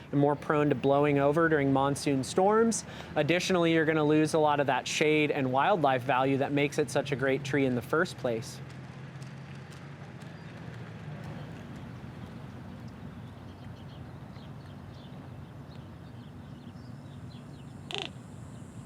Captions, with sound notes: and more prone to blowing over during monsoon storms. Additionally, you're going to lose a lot of that shade and wildlife value that makes it such a great tree in the first place. [Birds and wildlife sounds]